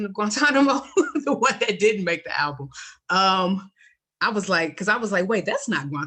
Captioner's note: laughs